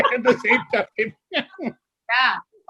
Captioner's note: laughter